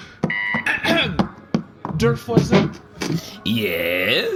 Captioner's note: clears throat